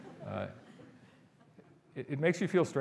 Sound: audience laughing

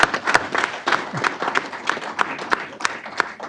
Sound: applause

